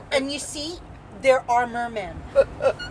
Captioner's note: laughing